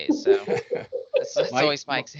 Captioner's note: laughing